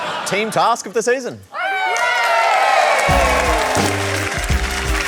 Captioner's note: all cheer